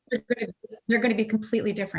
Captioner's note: audio warps